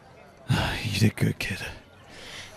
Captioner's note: sighing from exhaustion